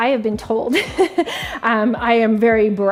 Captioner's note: laughing